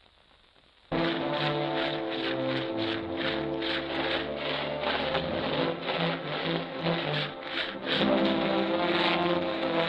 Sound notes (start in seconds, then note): 1.4 saw blades scraping; 3.5 dramatic music